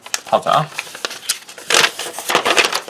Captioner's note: paper unfolding